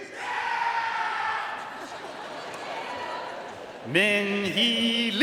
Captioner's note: audience cheering and applauding